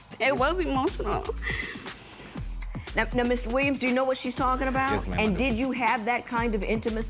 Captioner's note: voice breaking